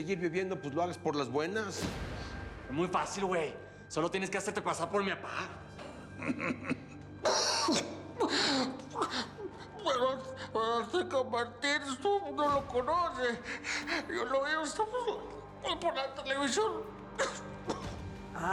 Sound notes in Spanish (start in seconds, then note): 6.1 risas; 9.1 habla con dificultad